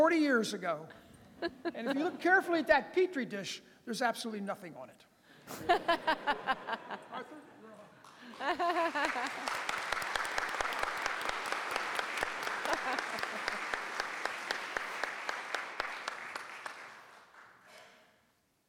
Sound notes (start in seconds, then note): 5.5 lauging; 8.0 clapping